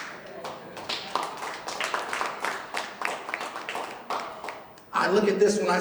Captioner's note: clapping